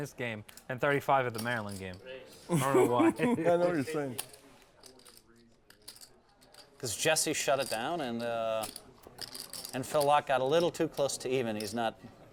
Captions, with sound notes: game then 35 in the Maryland game. [LAUGH] >> I don't know why. >> I know what you're saying. >> Cuz Jesse shut it down and ah, and Phil Laak got a little too close to even, he's not.